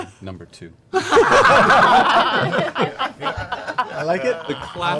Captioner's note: laughter